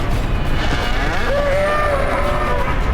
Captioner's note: bull grunts